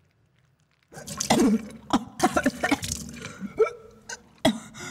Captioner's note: Ellie vomiting